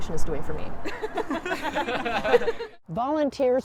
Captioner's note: laughter